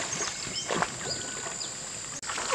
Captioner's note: sound of gurgling water